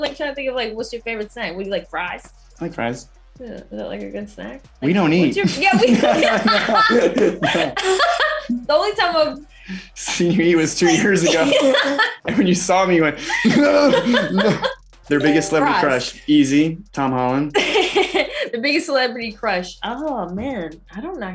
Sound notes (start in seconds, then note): 5.3 laughing; 7.5 both laughing; 9.6 laughing; 17.6 laughing